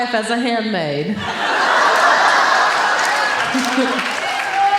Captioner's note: audience laughing